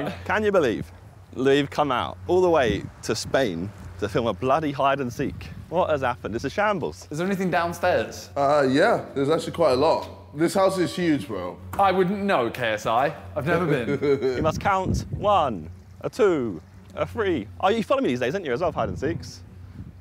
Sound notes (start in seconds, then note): 13.4 JJ laughs